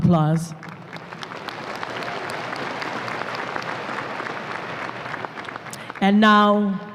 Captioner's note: applause